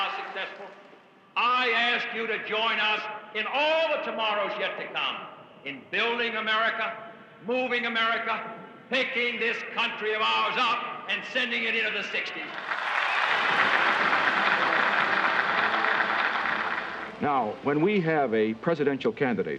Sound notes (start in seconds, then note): 12.4 cheers and applause